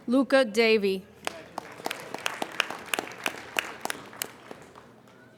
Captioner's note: applauding